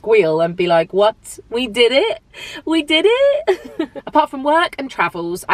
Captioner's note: chuckles